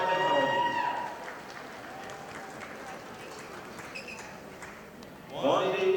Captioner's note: audience applauding